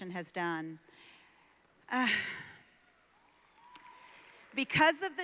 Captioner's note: applause